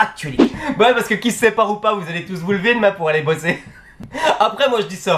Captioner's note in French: rires